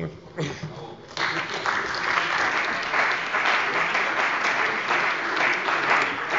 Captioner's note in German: Beifall bei der CDU und den BÜNDNIS 90/DIE GRÜNEN